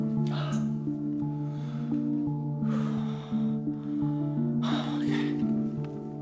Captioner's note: ominous music continues; heavy breathing